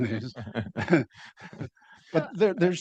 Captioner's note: panelists laughing